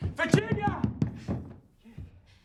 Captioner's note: banging